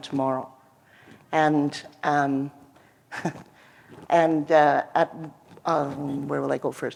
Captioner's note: laughter